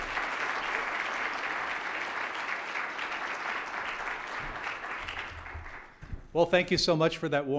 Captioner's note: applause